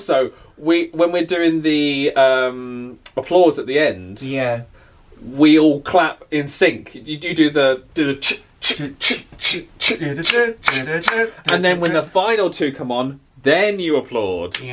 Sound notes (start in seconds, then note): 10.2 hands clapping